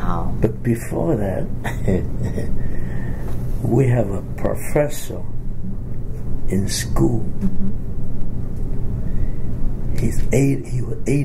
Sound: laughs

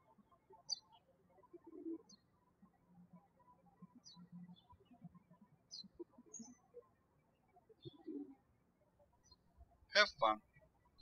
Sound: birds chirping

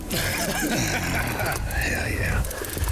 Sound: laughs

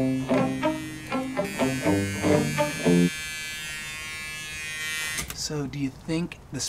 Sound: buzzing

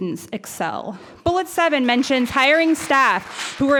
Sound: audience applauds

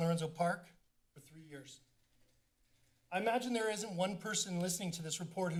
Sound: none

